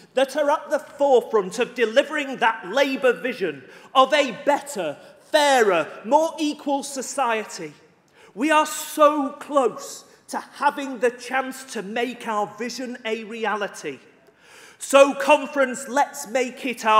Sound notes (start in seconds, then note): none